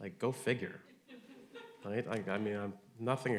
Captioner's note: audience laughing